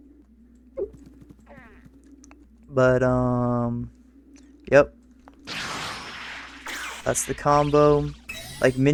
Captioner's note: gulp